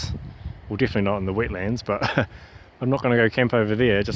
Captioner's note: chuckle